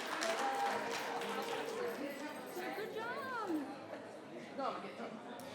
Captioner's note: people chattering